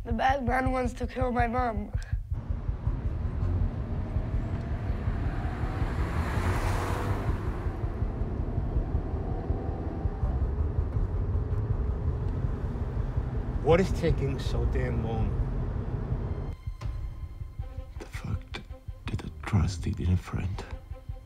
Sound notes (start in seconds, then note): 2.8 traffic hums